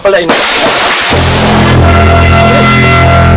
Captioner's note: gunshots